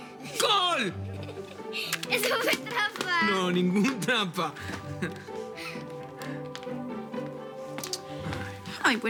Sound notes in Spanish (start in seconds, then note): 2.1 Risas